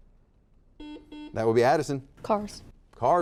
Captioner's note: buzzer dings